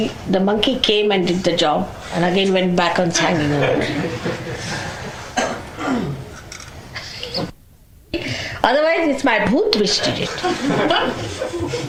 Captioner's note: laughter